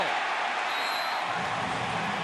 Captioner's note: cheering; whistle blows